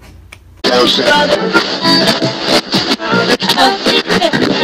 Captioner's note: radio static